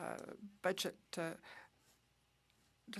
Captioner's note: speaking French